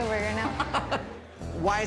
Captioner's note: laughs